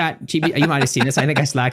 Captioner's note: laughing